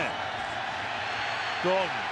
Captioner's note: cheering